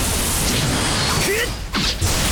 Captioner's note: exertion grunt